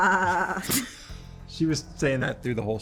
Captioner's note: both chuckling